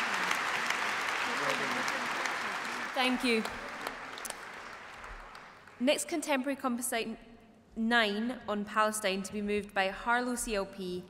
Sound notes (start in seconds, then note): 3.3 cheering; 4.8 applause